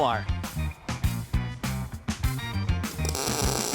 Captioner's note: welder crackling